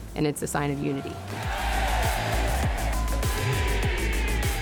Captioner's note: crowd shouting